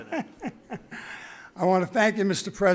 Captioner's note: laughs